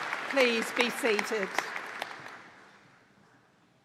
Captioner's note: applause